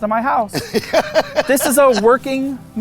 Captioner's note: laughing